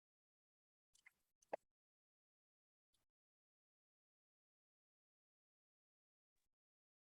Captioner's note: silence